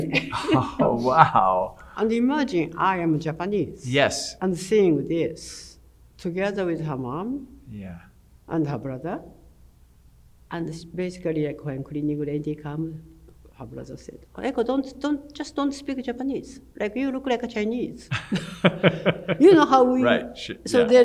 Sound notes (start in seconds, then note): 18.0 laugh